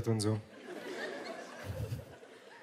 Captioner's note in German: Lachen